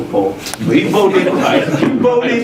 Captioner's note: laugh